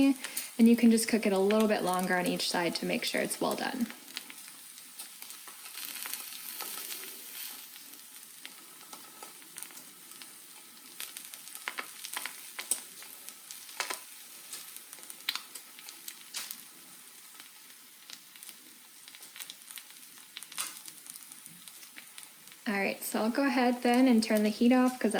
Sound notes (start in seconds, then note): 5.0 sizzling